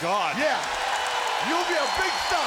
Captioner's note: crowd cheers